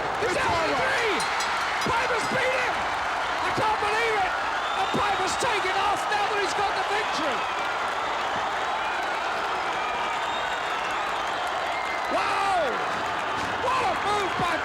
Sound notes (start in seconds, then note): 1.1 bell ringing; 7.9 audience cheering